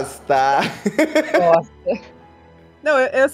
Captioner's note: laughter